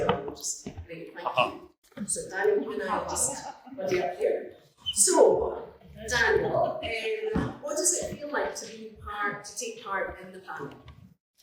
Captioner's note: laughter